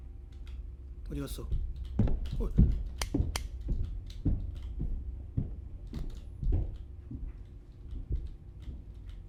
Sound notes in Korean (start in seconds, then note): 4.1 발소리